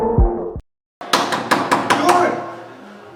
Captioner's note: Yagya banging the door